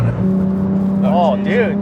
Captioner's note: engine roaring